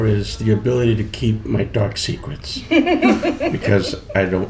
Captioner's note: laughter